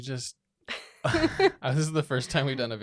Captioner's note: both laughing